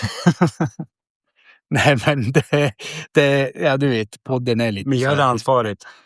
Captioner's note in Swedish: skratt